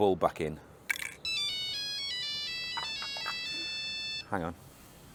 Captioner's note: phone ringing